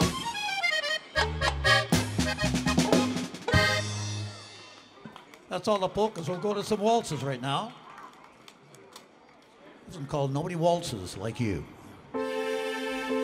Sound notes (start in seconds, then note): 5.1 crowd applauds